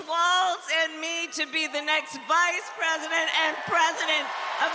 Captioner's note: cheers and applause